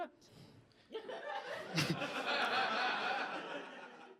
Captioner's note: audience laughter